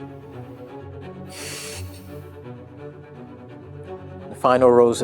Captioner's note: sighing